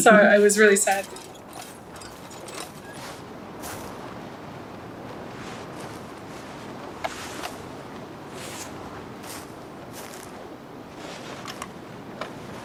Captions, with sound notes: So, I was really sad. (wind blowing)